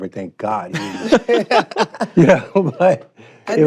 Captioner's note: both laughing